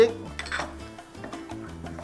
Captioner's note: clang